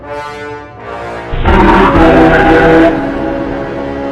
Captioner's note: loud roar